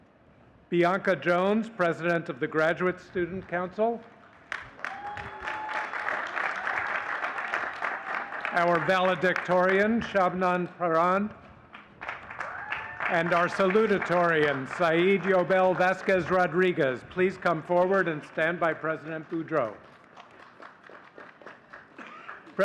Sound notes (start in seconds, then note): 6.7 audience cheering and clapping